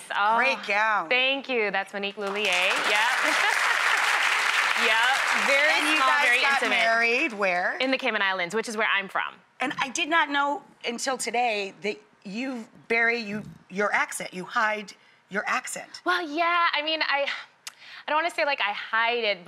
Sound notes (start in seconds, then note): 2.2 clapping; 3.3 chuckling